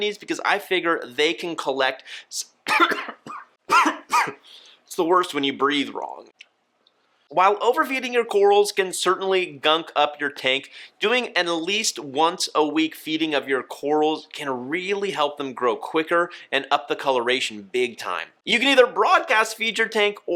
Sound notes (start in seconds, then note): 2.6 coughing